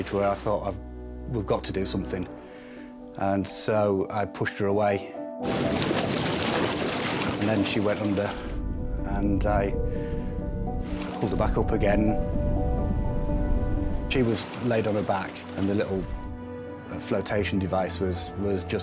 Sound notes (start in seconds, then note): 5.4 water whooshing; 5.5 water gurgling; 12.2 intense music